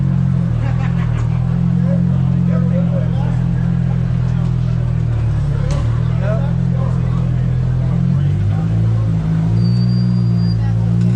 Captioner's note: engine revving